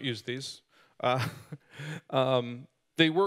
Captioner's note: laughing